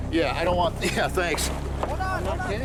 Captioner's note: chuckles